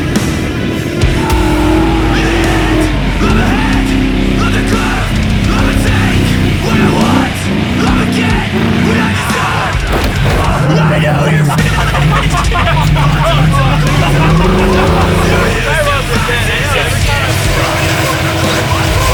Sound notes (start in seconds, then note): 12.0 laughing; 16.1 heavy metal music